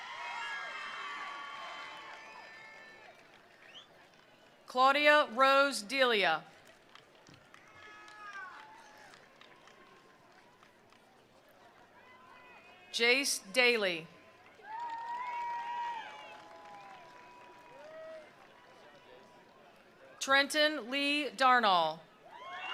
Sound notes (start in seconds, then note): 0.0 attendees cheering; 0.0 attendees applauding; 6.6 attendees applauding; 7.6 attendees cheering; 14.3 attendees applauding; 14.5 attendees cheering